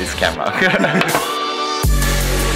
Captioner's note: laughs; electronic music